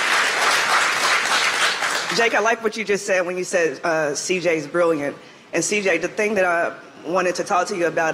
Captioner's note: applause